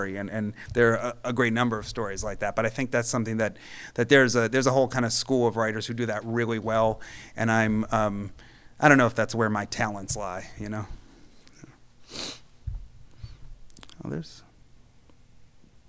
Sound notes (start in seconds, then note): none